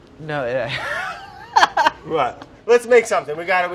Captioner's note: laughs